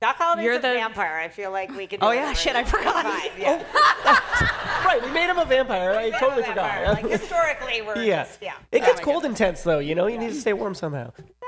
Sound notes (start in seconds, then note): 2.6 laughter